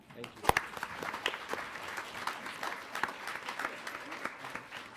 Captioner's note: applause